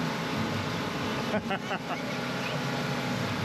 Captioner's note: laughing